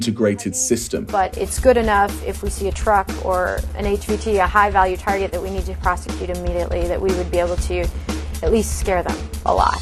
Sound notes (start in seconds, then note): 1.7 soundbite of archived recording